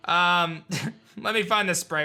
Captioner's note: giggles